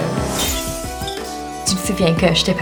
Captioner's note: glass explosion